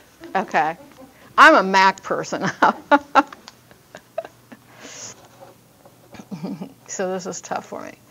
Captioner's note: laughs